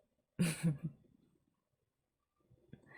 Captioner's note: laughs